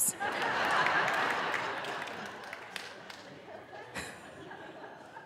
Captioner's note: audience laughing